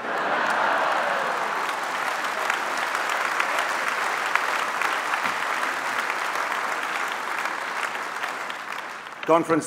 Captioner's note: applause